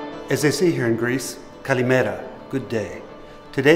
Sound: speaking greek

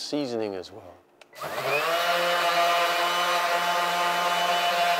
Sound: metal grinds

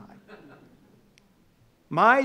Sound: audience laughing

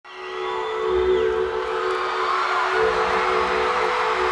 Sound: crowd cheering

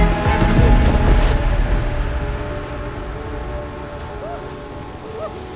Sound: snow whooshing

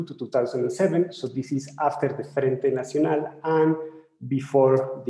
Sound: speaking in foreign language

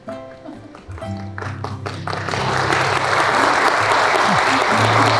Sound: people clapping

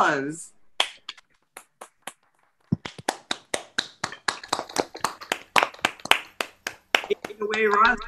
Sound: applause

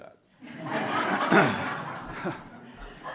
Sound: laughter

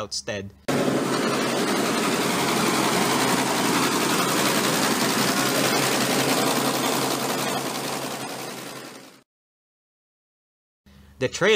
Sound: tractor races speedily

